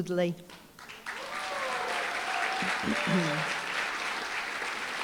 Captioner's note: applause, cheering